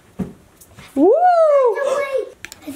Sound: gasps

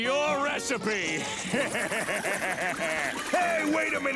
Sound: laughing

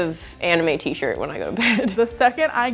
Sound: chuckles

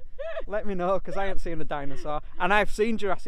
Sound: laughing

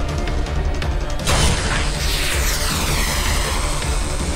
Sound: sound effect playing

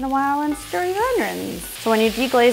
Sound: onions sizzling

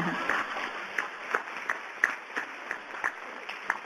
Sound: audience applause

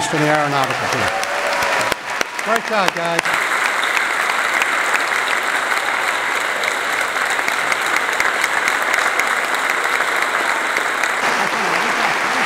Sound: applause

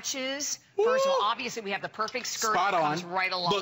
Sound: laughter

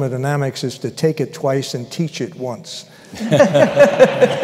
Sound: laughter

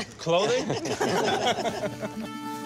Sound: laughter

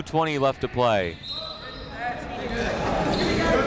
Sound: whistle; chatter

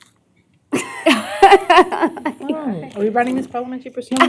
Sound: laughter

